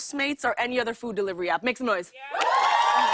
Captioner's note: cheers and applause